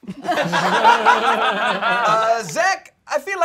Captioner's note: all laughing